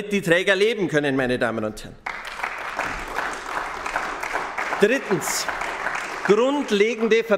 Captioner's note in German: Beifall bei den GRÜNEN